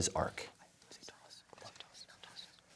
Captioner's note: whispers